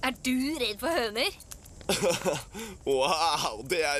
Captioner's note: duncan chuckles